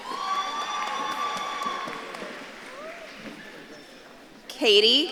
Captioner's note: audience claps and cheers